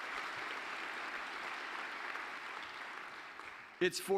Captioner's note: applause